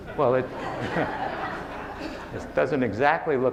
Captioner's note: laughing